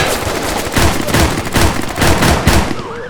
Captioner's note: gunfire and shouting